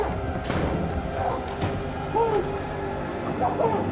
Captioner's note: muffled yelling